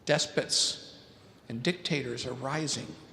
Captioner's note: none